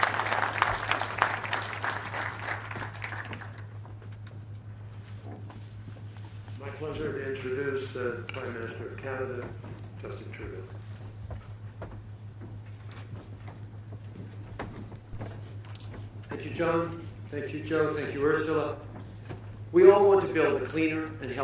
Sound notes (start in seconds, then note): 4.0 applause